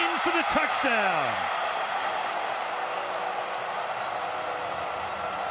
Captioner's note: cheering